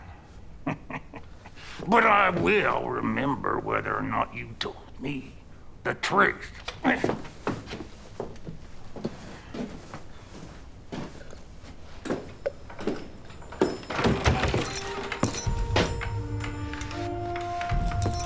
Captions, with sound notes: But I will remember whether or not you told me the truth. (footsteps approaching) (door opens) (dramatic music)